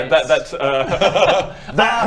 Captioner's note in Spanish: risa nerviosa